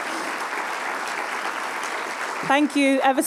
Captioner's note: applause